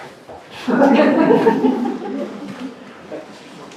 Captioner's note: laughter